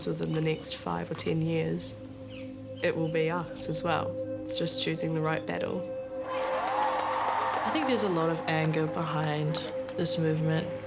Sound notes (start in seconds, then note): 6.2 people cheering